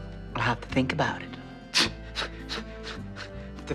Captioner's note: scoffing